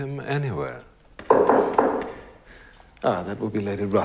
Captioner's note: knocking at door